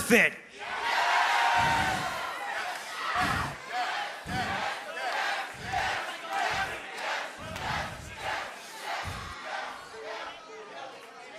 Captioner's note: fans chanting yes